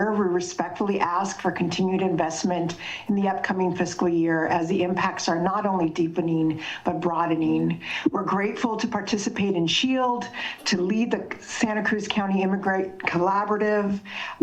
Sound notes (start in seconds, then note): none